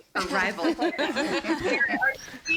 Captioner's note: everyone laughing